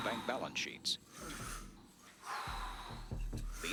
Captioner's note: breathing heavily; tense music